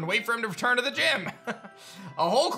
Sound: chuckles

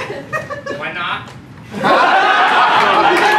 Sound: weird voice; laughter and applause

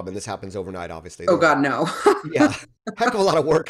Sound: laughs

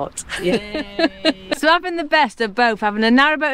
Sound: laughs

